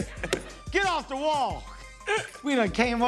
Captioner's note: laughs